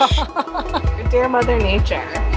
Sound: laughing

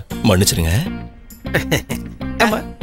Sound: chuckles

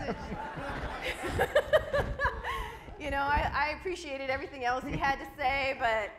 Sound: audience laughs; laughs

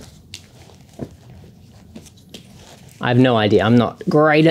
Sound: mats rustling

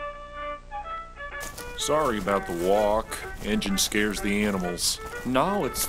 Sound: walking

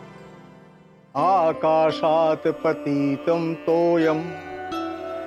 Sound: chanting in Sanskrit

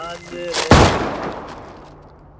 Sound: gun Fire

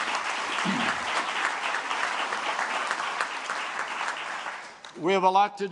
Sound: applause

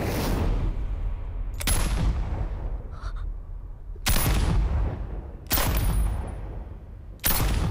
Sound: gunshot sound

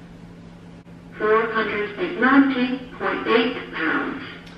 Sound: voiceover

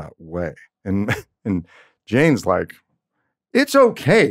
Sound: laughs

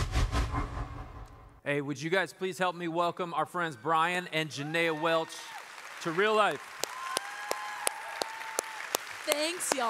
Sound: applause

